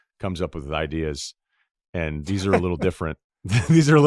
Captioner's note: laughs